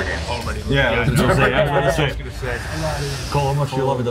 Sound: laugh

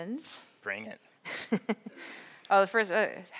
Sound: laughs

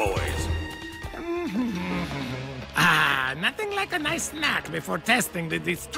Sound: hums

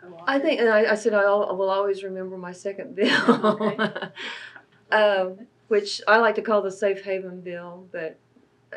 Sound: laughs

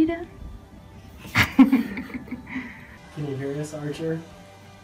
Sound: laughing

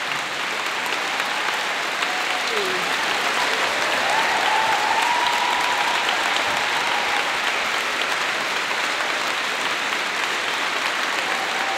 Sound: applause

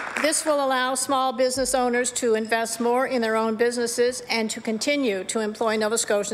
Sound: applause

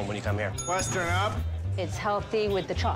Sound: bell dinging

